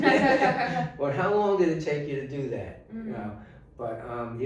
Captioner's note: laughing